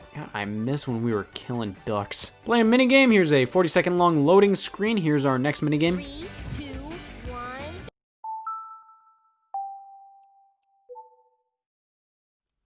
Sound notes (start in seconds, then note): 9.5 Wii chimes